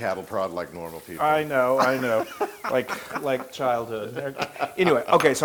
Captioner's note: laugh